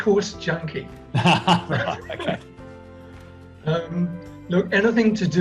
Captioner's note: laughs loudly